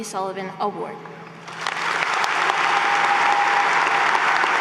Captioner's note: applause